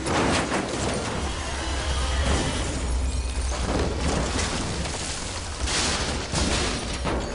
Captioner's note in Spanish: Estruendo